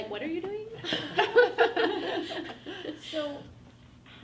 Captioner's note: women laugh